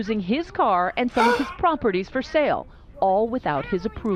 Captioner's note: gasps